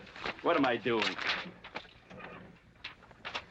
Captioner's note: paper rustling